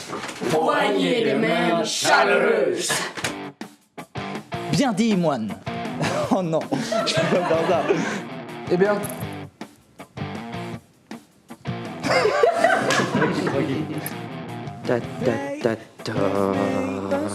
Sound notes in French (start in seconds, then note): 7.8 Rires; 12.0 Rires